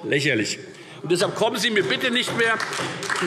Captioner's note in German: Beifall Freie Demokraten und SPD